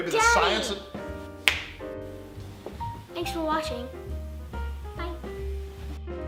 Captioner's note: door slam; snap